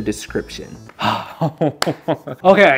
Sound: group laughing

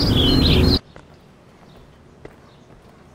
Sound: noise abruptly quiets

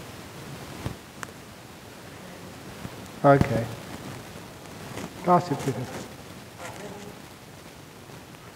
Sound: sound system interruptions

